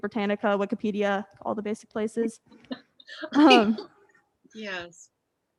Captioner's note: laughs